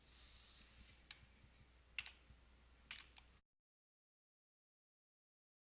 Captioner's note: sound of typing